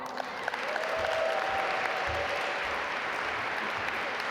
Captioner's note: audience applaud